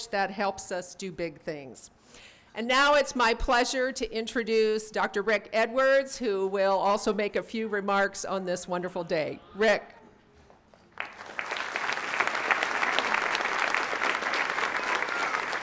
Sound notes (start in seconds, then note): 10.8 audience clapping